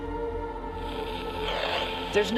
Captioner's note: rádio estático crackling